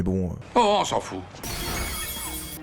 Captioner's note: French dub